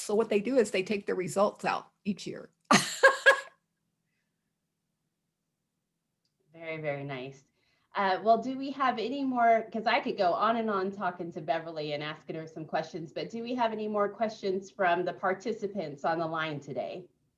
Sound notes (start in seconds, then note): 2.7 chuckles